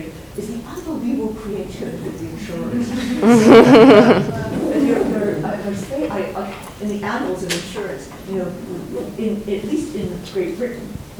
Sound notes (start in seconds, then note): 2.8 audience laughs drown out voice